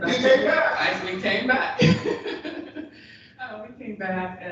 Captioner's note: chuckles